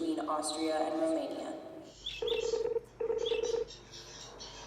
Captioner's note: phone ringing